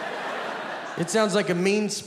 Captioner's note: audience laughing